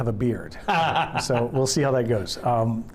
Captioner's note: laughs